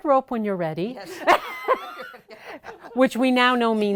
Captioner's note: laughing